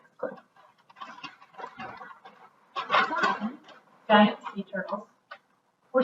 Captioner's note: paper rustling